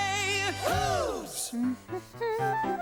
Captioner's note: humming